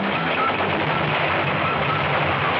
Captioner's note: explosion booming